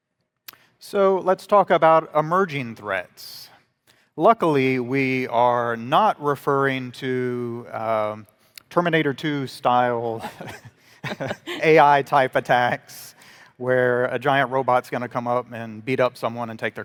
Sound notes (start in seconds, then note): 10.2 both chuckling